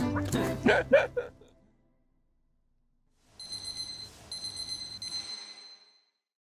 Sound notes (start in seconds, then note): 3.4 timer beeping